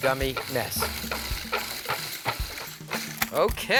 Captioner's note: blender whirring